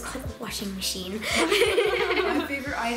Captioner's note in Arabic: يضحك